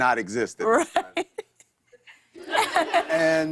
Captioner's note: laughter